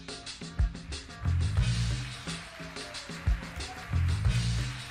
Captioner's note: upbeat music; audience clapping